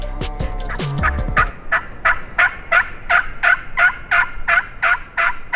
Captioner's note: turkey call squeaking